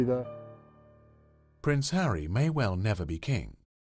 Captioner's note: voiceover